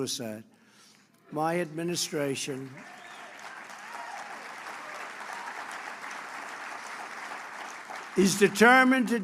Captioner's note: applause